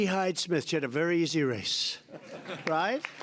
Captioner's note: laughter